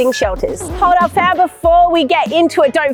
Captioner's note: record scratching